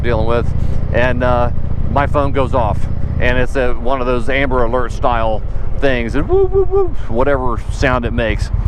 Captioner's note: wooowooowooo